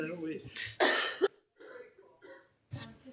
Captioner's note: cough